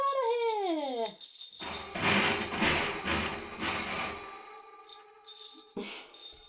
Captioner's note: small bell ringing, rattling